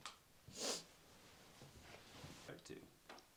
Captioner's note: Nellie sniffles